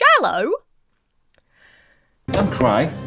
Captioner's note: Emma inhales